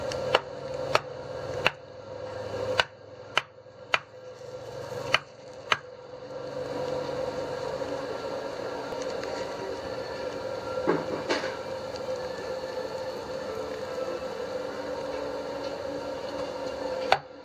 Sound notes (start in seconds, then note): 0.1 tapping; 3.8 sizzling